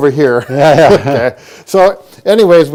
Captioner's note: both men chuckle